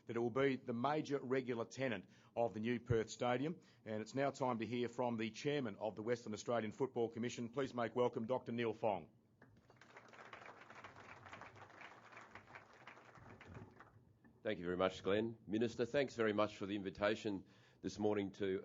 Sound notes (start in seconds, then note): 9.6 applause